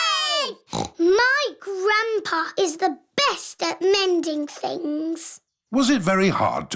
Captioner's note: snorts